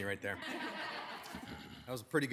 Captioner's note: attendees laugh